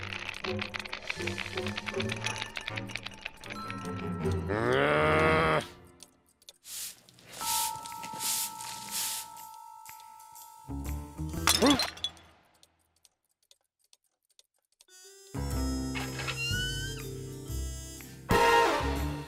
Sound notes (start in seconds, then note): 4.5 growls; 11.4 crashing noise